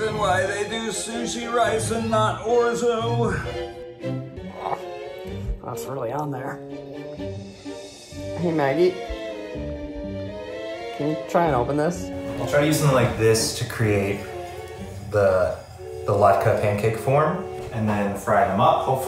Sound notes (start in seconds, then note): 4.4 grunts